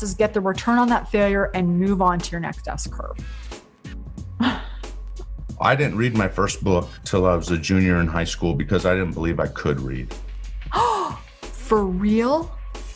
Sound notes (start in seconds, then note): 4.4 laughs; 10.7 gasps